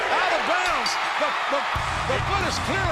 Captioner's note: bell rings